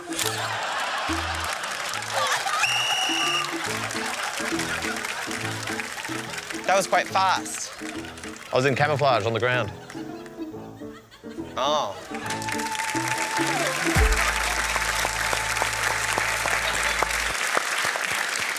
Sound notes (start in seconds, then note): 0.2 laughter and applause; 2.5 whistle blows; 12.1 applause